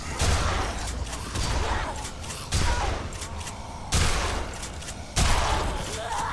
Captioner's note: zombie growling; shotgun firing